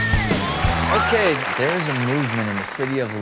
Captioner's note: applause